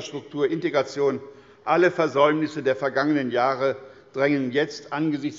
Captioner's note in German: none